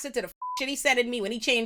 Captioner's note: beep